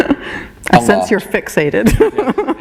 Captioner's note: laughter